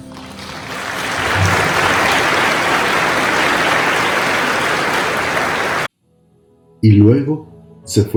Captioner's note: applause